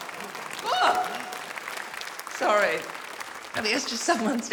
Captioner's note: screams